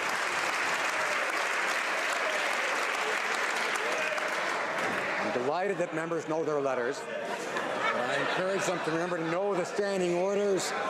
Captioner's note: some Applause